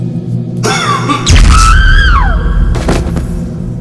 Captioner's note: Radhika screams!